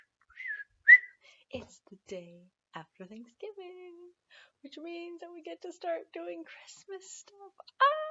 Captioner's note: whistle